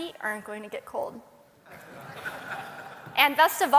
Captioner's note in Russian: Смех